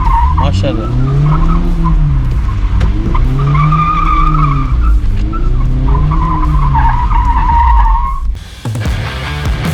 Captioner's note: car drifting sound